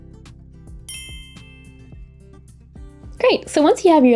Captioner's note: bell dings